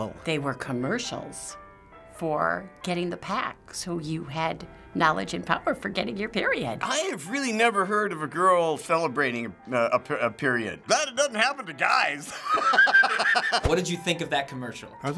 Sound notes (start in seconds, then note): 12.3 cracking up